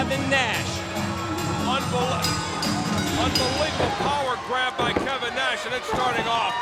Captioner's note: bell ringing